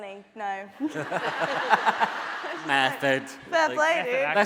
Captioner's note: laughing